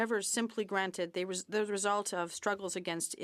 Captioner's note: speaking French